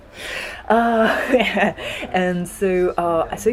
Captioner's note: laugh